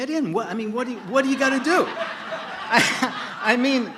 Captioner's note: laughter